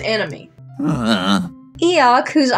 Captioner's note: Eeyok Groans